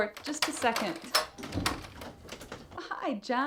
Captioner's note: doorknob rattling